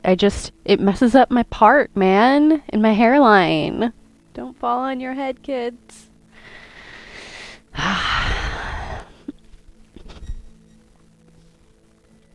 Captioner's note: exhale